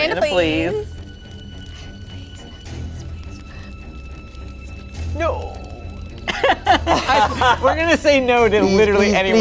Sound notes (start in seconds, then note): 6.2 group laughs